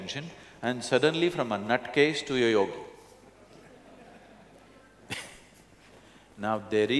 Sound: laughter

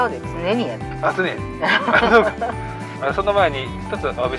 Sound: laughs

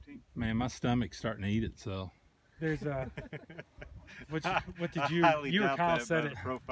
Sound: laughs

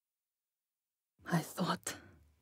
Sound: voice trembling

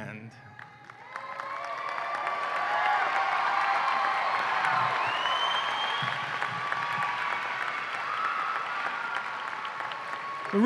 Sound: applause and cheering

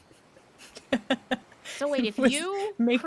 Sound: person laughing

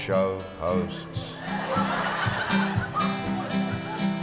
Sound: crowd laughs

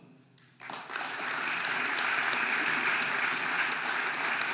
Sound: audience applauding

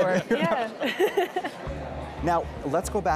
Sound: chuckles

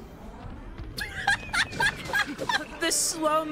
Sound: laughter

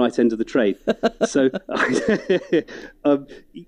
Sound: laughs

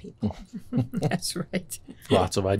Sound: laughter

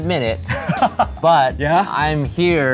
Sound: laughing

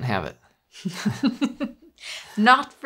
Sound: both laughing

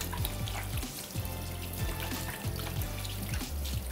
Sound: water splashing

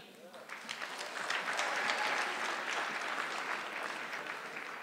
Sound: audience clapping

